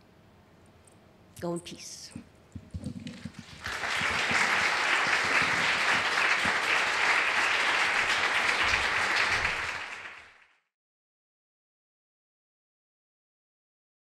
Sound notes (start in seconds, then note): 2.8 audience applauding